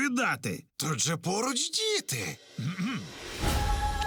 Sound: clears throat

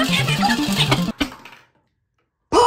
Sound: click

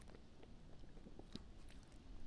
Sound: lick one’s lips

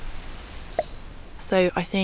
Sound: cute squeaky bird

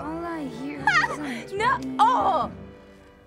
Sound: shrieks

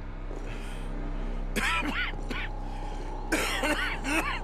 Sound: coughing

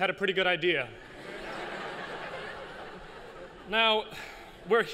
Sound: laughter

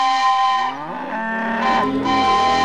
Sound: mooing

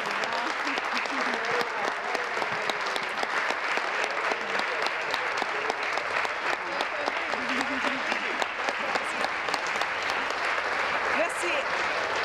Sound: applause

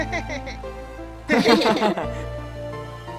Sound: laugh

